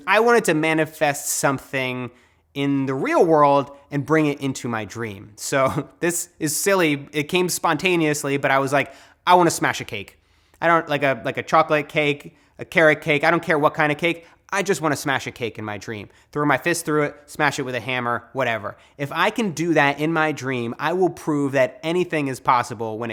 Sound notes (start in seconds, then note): 5.6 laughs